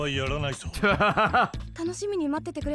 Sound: laughs

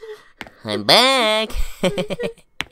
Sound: chuckles

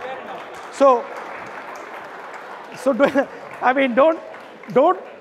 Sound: audience laughing and applauding

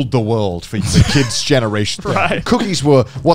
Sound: laughing

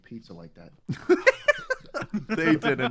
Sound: laughs

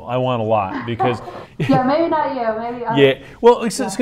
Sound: laughs

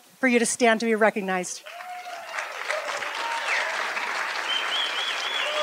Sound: applause

